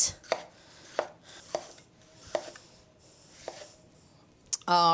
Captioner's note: knife slicing